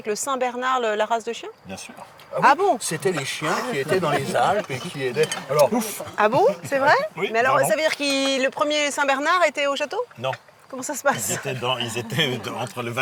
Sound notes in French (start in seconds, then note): 6.8 rires